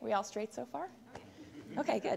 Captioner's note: background talk; laughter